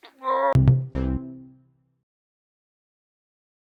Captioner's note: groaning